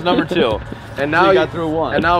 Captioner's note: laughing